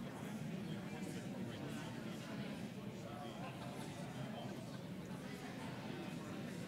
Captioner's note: audience chatters